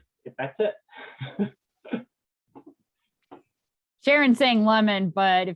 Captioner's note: chuckles